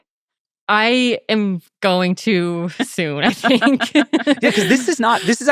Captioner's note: laughing